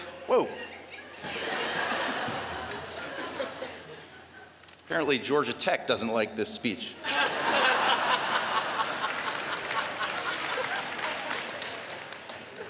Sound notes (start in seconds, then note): 3.9 laughter